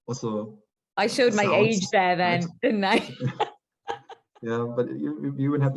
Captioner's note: light laughter